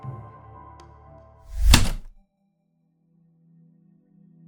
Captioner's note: typewriter keystroke